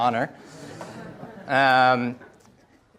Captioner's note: audience laughs